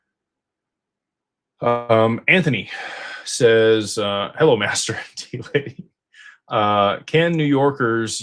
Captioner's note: sighs and gasps